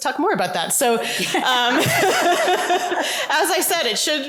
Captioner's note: laughter